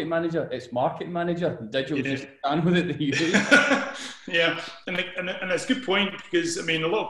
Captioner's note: laughter